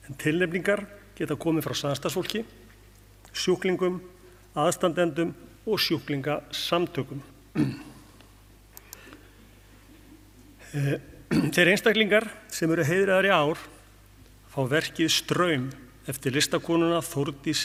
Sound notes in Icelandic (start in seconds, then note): 7.5 ræskir sig